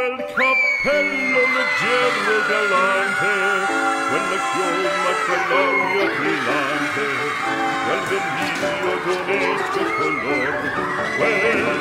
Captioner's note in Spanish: Gritos